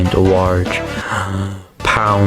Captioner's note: inhales Oxygen